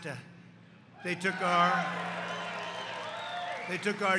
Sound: applause

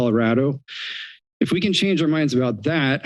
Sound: inhales

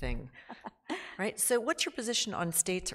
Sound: laughs

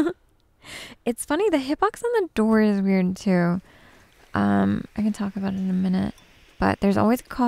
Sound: giggles

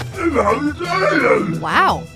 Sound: robot muttering

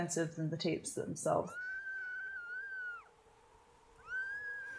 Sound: faint screaming; wind howling; screaming getting louder

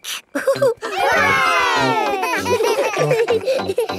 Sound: chuckles; laughing

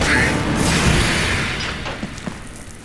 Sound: shriek

